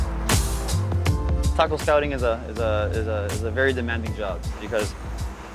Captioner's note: stammering